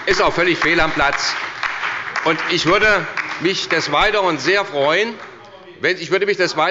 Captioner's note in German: Beifall bei der SPD, dem BÜNDNIS 90/ DIE GRÜNEN und der LINKEN